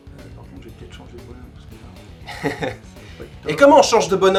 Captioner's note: snickers